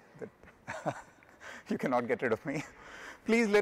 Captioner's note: chuckles